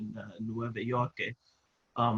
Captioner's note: laugh